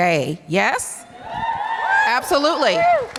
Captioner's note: audience cheers